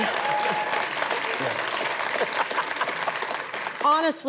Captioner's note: audience applauds; laughs